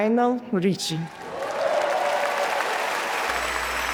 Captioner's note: audience applauding and cheering; inspiring music